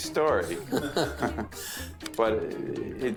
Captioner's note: both laugh